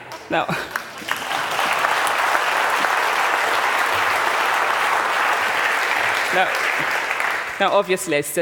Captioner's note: laughter; applause